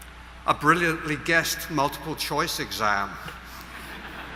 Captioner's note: laughter